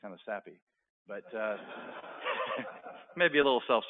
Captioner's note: laughter